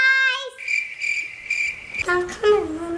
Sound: birds chirping

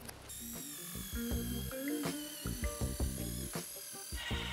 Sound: saw cutting

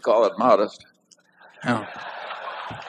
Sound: laughter

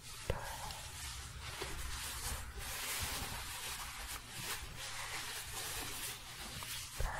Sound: shuffling

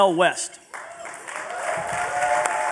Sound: applause

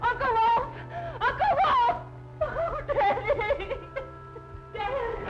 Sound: weeping

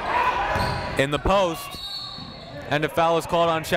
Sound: whistle blows

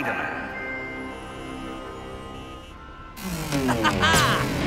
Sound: traffic

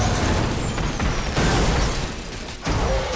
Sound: thudding

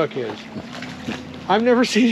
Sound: fish splashing

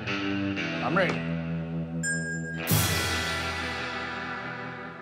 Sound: bell rings

